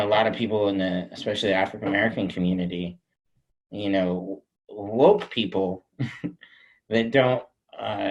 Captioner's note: chuckles